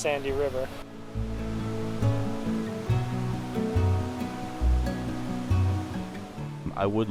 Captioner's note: water churns